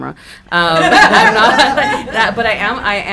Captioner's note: audience laughing